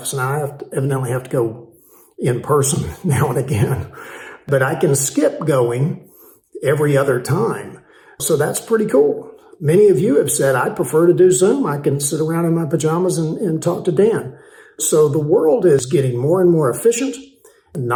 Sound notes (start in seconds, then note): 2.8 laughing